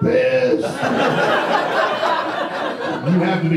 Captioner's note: audience laughter